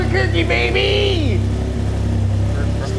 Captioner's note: car engine idling